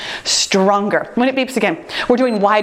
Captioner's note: timer beeps